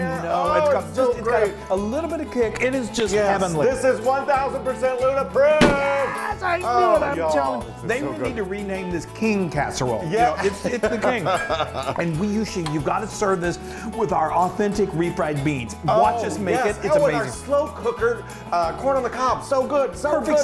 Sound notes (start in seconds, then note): 11.0 laughter